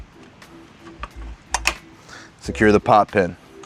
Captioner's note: pin clanks